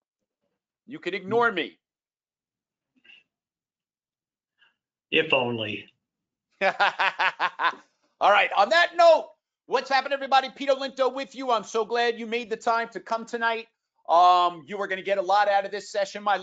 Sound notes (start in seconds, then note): 6.6 laughing